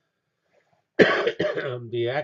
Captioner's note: cough